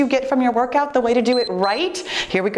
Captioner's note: timer beeps